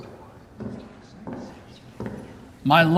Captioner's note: footsteps approaching